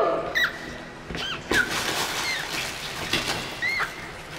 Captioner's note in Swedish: gnisslande